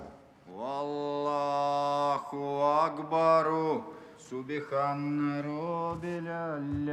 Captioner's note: praying in Arabic